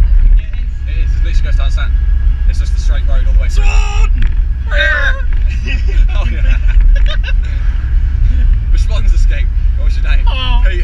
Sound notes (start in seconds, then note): 3.5 imitate Tyre squeal; 5.5 both start Laughing; 9.8 honks like a swan